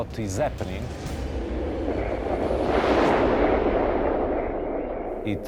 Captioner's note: aeroplane whooshing